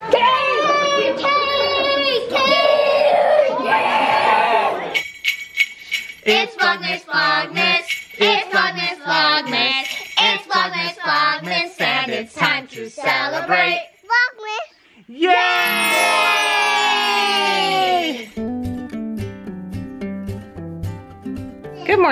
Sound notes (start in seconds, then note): 3.1 yelling; 4.9 bells ringing; 18.2 acoustic guitar music